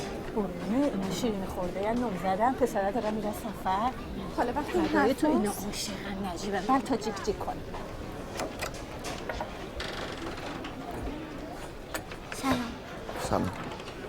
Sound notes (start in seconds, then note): 8.1 door opening